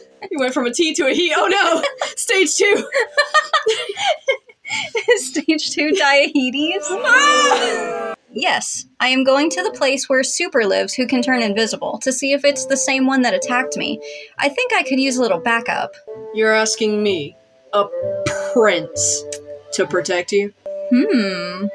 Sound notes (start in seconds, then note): 2.7 chuckle; 2.7 laugh; 6.6 audience Boo'ing